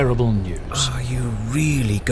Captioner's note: sighs